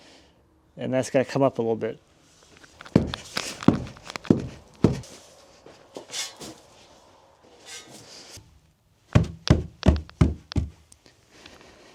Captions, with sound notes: and that's gonna come up a little bit. (tamper tapping) (slab tapping)